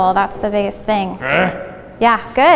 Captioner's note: grunts